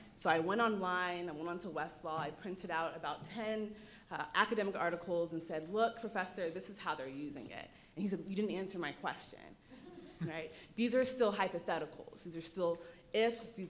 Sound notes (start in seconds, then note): 9.8 audience chuckling